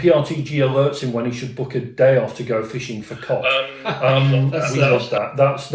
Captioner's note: laughter